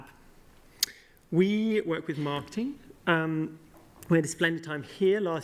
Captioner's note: none